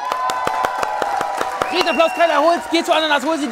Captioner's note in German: Jubel, Applaus